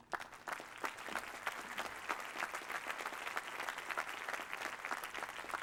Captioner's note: applause